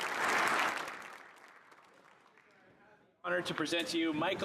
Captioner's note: cheering; applause